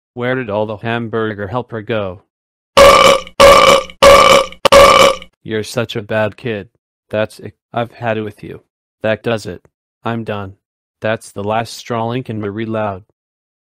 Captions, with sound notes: Where did all the Hamburger Helper go? (Loud burping) You're such a bad kid! That's it, I've had it with you! That does it! I'm done! That's the last straw, Lincoln Marie Loud!